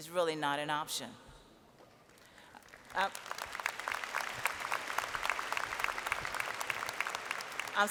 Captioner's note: applause